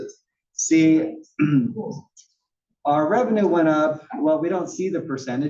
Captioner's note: cough